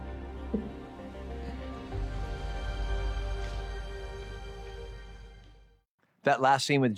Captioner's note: chuckles